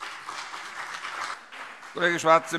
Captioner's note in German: Beifall CDU und BÜNDNIS 90/DIE GRÜNEN